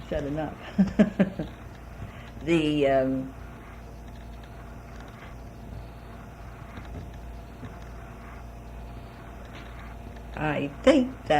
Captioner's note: laughs